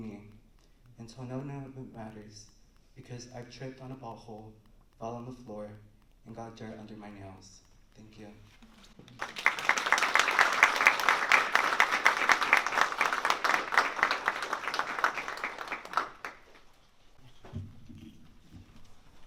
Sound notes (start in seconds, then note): 9.1 applause